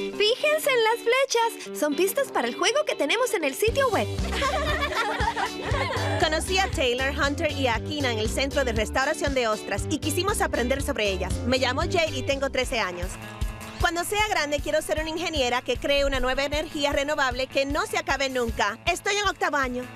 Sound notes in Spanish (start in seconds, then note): 4.2 todas riendo